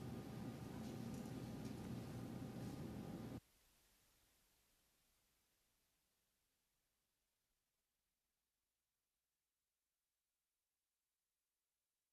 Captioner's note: silence